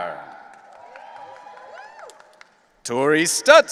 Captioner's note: audience cheering